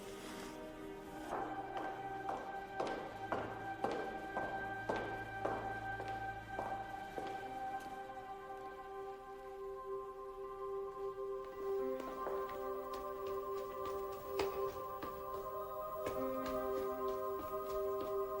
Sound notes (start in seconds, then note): 1.2 footsteps click; 14.4 footsteps echo